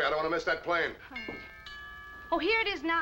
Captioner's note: doorbell